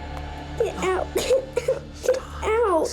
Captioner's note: sobbing